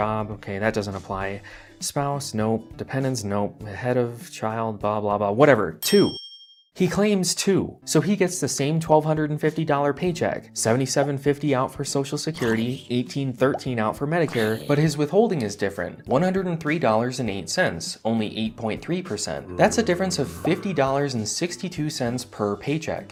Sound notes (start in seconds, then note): 12.4 zombie noms; 14.3 zombie noms; 19.0 zombie growls